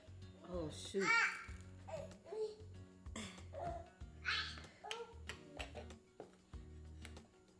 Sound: peaceful music continues; baby moaning continues

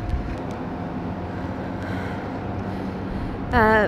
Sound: sighs

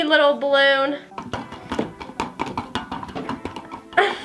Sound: balloon thumps

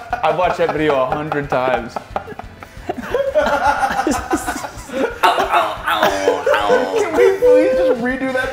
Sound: laugh

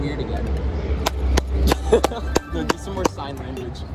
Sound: clapping

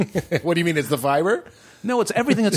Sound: laughs

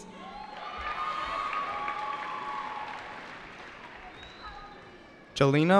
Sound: cheering

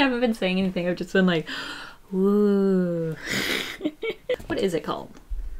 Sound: laughs

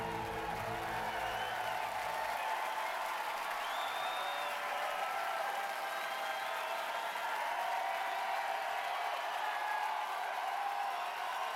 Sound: cheers and applause

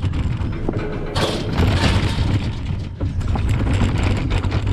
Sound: gate bangs shut; wheels scraping

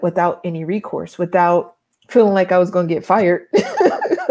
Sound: laughs

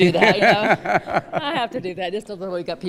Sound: laughter

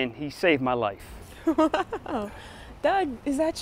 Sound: laughing

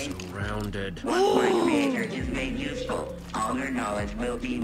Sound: Sabrina groans

